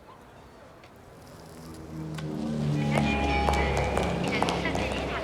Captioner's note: aeroplane rumbling; airport commotion